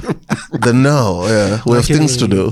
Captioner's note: rires